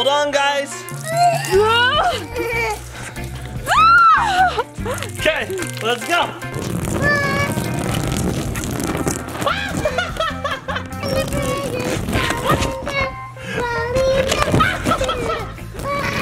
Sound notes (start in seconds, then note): 1.2 squeals; 9.5 squeals